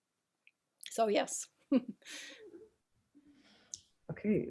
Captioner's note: laughing